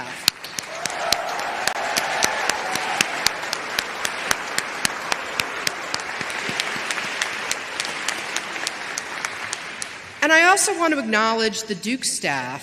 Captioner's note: applause